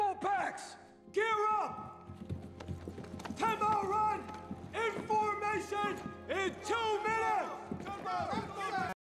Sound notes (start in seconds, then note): 6.3 men shout